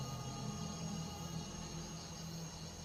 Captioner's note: insects buzzing